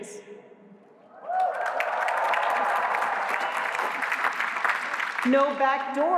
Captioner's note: cheers